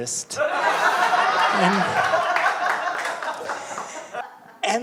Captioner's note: audience laughing